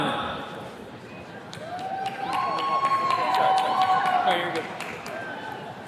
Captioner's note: attendees cheers and claps